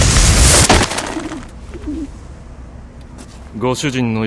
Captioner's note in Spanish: arrullo de palóma